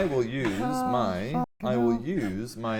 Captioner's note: laughing